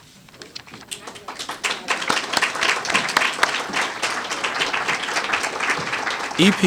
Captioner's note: applause